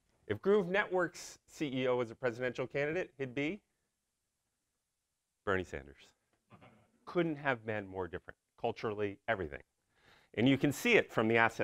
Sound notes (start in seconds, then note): none